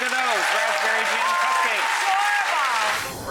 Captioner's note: audience applause; swoosh